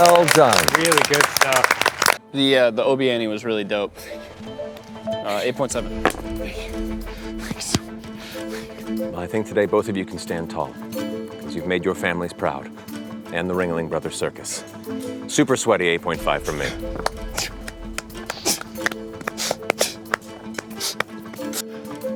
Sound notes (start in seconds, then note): 0.0 applause; 7.3 breathless; 17.9 victorious fist pumps and appropriate grunts; 20.3 sniffles